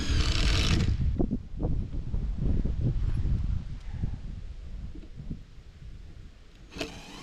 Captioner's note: wind blowing